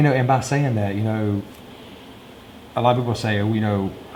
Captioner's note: none